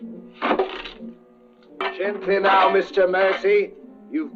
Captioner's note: metal clanging